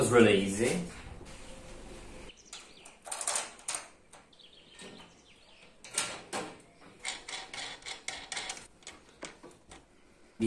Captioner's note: construction sounds